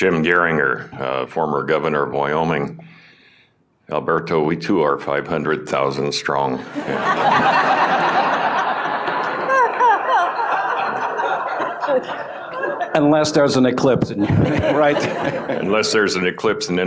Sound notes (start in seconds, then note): 6.6 laughter